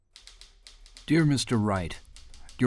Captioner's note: typewriter keys clicking